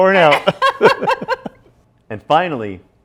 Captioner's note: both laughing